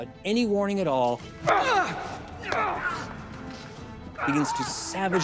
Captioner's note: Charles groans